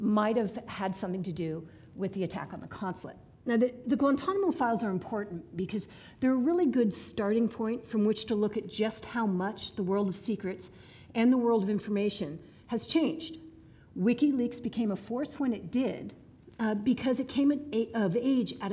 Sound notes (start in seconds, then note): none